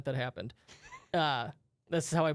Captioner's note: laughs